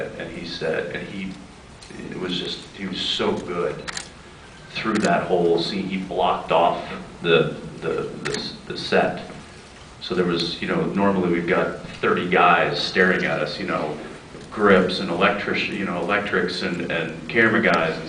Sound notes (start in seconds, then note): none